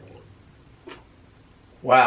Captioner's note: popping sound